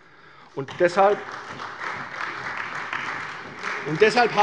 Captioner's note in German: Beifall bei der CDU